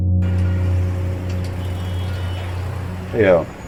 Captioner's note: engines rumbling